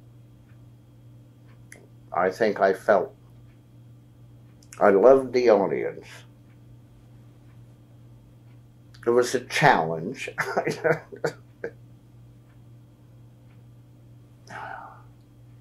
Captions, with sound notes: I think I felt—I loved the audience. It was a challenge. (Laughs)